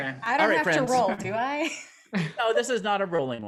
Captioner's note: laughs